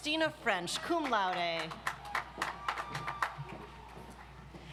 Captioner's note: audience applauds